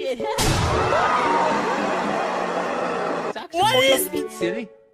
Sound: screaming

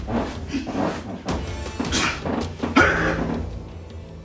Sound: grunting

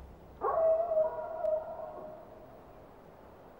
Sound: wolf howling

